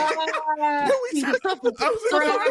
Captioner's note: laughing